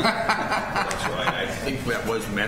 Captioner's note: laughter